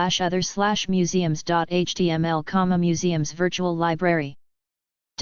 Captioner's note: in german